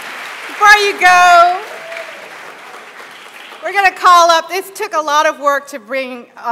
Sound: applause

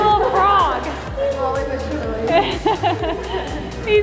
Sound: laughs

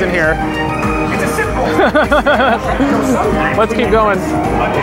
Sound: laughs

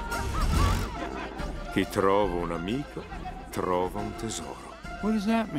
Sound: speaks in Italian

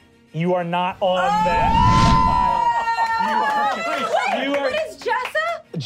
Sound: cheering

